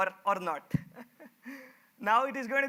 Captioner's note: chuckles